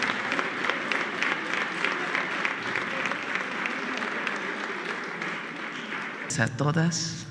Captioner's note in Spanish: aplausos